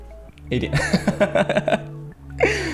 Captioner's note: laughs